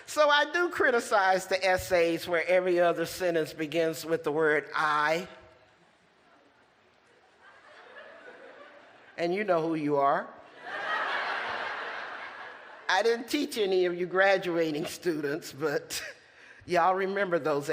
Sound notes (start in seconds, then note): 11.3 laughter